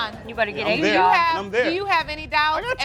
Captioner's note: crowd laughing